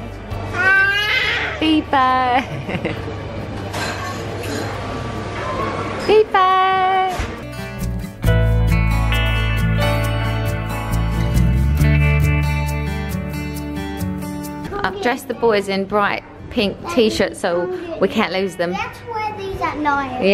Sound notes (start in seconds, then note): 0.5 baby cooing; 2.4 laughing; 6.5 soft guitar music